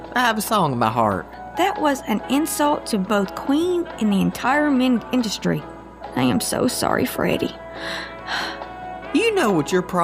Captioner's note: Charlene sighs